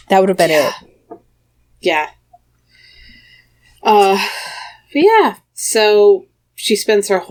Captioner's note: sighs